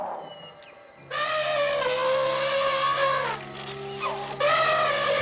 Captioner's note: Tantor trumpeting